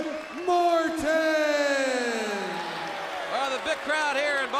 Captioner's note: crowd chatter